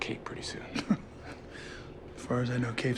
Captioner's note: laughs softly